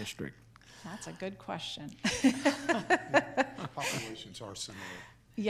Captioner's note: laughs